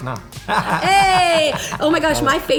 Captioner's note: laughter